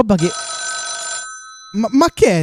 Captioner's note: phone rings